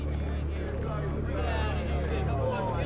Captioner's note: chattering